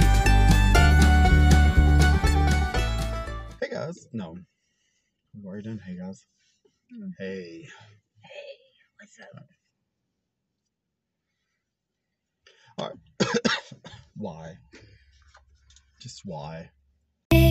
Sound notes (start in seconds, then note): 13.1 coughs